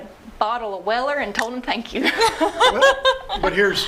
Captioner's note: laughing